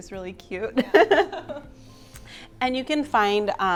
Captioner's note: both laugh